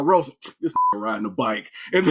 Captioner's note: beep